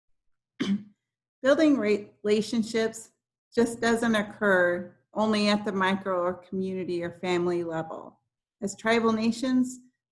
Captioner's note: clears throat